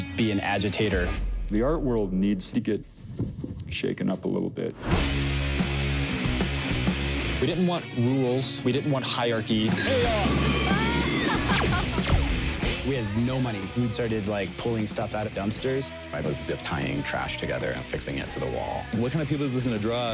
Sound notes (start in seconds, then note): 6.6 rock music; 12.2 woman laughs